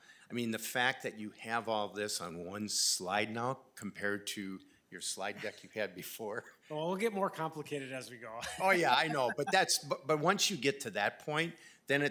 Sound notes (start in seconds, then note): 6.1 laughing; 8.4 laughing